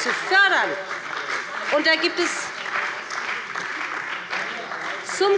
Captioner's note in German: Beifall bei dem BÜNDNIS 90/DIE GRÜNEN und der CDU